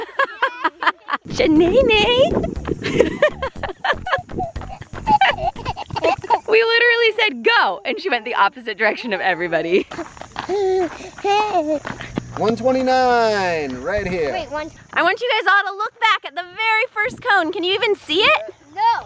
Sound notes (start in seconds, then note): 0.1 laughing; 3.1 laughing